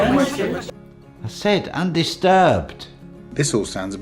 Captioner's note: everyone talking excitedly